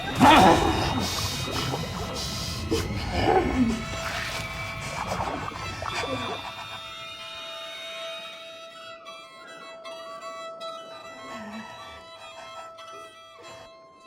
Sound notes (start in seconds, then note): 0.0 Dr. Gladstone grunts; 4.3 water bubbles